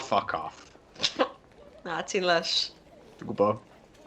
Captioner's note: laughs